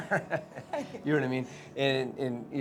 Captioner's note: laughs